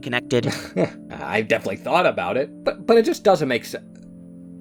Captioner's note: laughs